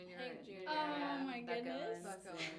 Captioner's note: laughs